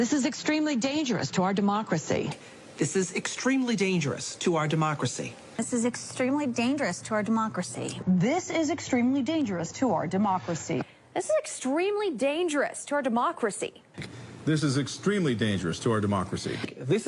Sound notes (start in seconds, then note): none